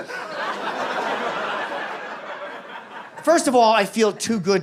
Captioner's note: audience laughs